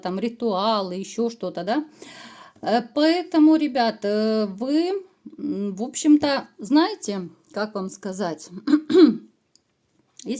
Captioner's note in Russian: откашливается